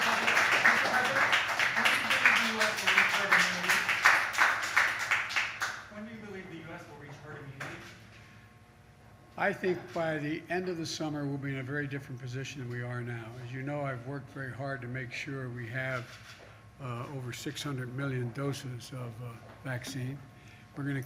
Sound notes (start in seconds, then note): 11.4 applause